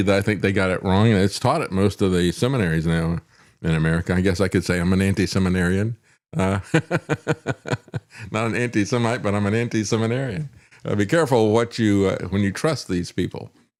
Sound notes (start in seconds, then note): 6.4 laughs